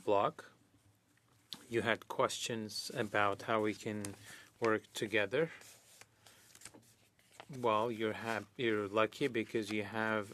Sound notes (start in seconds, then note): 3.6 speaking French